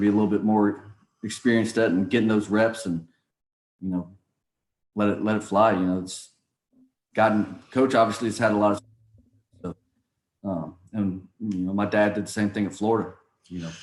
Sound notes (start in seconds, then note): 9.2 speaks faintly